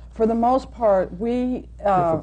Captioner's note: laughs